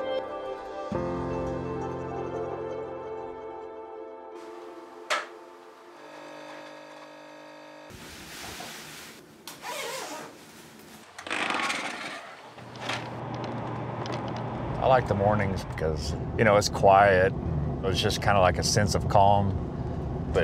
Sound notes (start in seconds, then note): 9.6 zipping; 11.0 door creaking